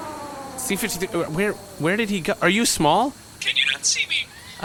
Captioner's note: shrinking machine noises; quietly, because he is small